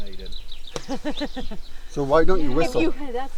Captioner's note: laughing